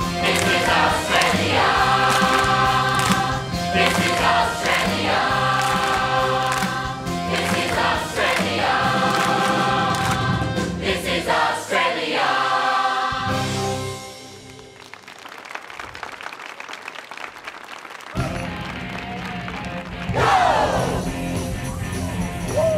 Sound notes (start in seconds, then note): 14.2 audience applauding; 18.2 upbeat rock music